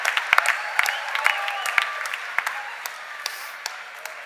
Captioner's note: cheers and applause